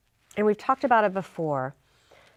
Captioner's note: none